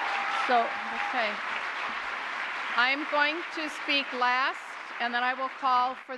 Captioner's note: applause